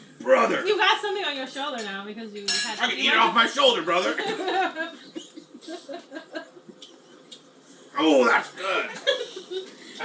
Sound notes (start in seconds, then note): 4.2 laughing; 9.0 laughs